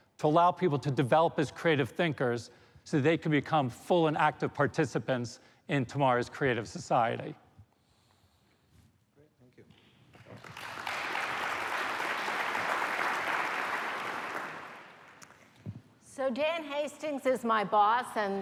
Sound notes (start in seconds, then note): 7.8 applause